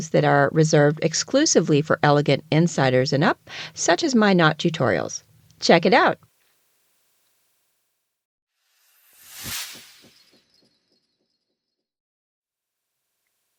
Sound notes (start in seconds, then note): 8.5 sound effect